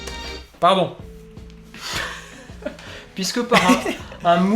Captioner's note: laughs